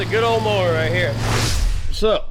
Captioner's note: swoosh